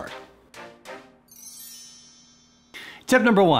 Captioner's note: bells tinkling; upbeat music